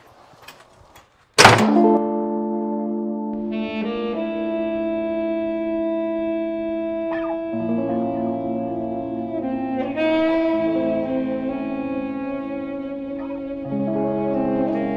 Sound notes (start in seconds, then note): 1.3 door banging; 2.4 soft instrumental music